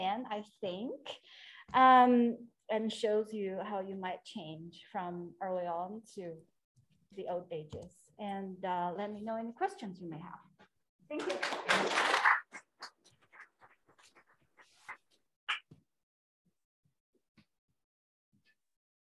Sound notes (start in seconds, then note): 11.1 applause